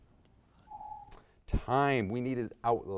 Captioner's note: timer beeps